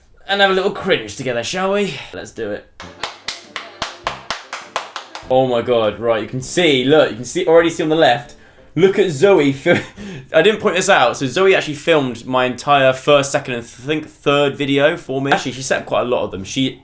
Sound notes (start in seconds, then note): 2.8 clapping